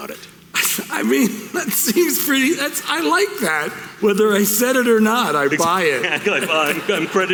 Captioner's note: laughing